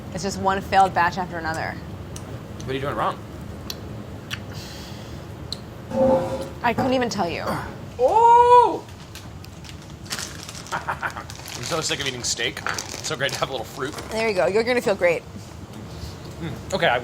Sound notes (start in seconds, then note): 10.8 laughing